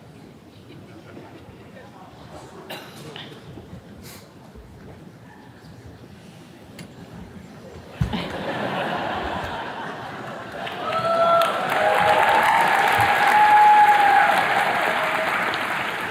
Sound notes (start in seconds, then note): 2.6 attendee coughing; 8.0 attendees laughing; 9.8 attendees cheers and claps